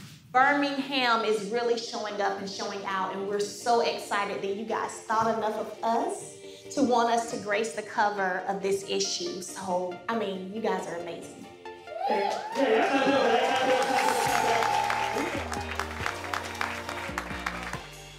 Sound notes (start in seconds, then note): 11.9 cheers and applause